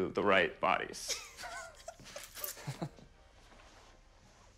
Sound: laughing

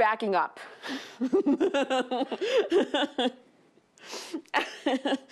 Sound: laughs

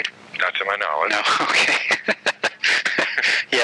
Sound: laughing

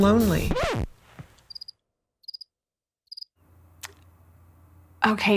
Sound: record scratches; crickets chirp

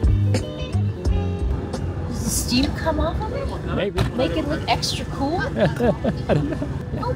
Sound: laughter

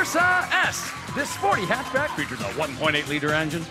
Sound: cheers and applause

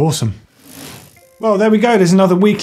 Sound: bike chain whirring

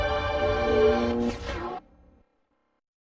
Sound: mechanical sounds; silence

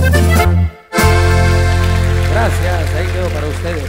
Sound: Aplausos y gritos del público

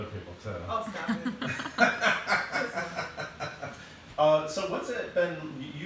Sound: laughing

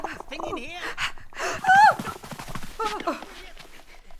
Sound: crying

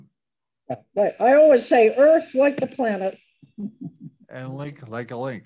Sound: laughs

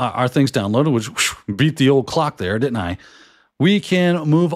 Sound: whew!

